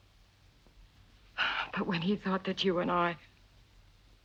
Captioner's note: sighs